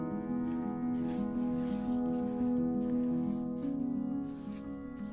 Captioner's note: paintbrush swishing